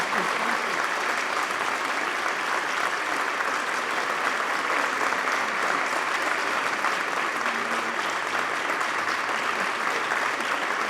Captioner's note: applause